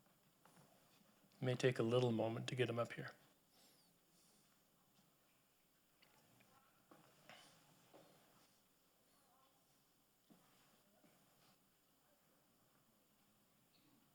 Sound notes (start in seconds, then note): none